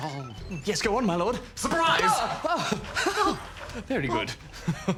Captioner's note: laughs